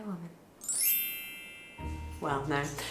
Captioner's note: bell chimes